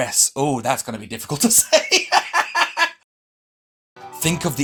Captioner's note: laughs